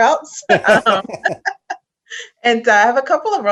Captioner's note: laugh